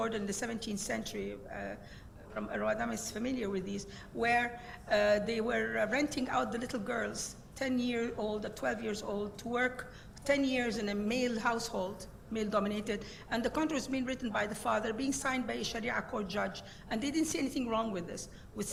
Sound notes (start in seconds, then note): 15.6 speaking in foreign language